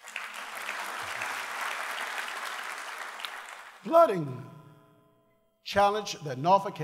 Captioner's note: applause